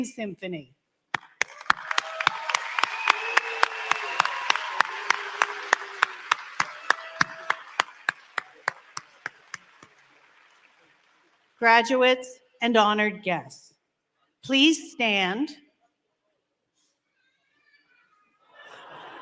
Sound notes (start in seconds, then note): 5.9 applause